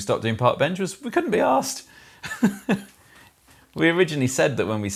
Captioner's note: laughs